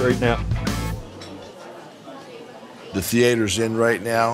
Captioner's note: people chattering